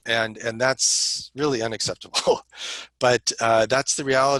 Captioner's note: laughter